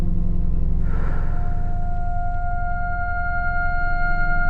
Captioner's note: sighs